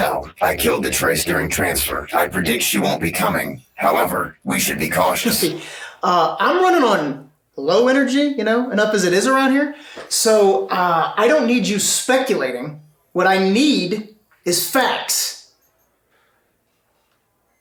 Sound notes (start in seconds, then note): 3.8 chuckles